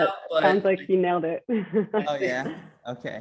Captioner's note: laughs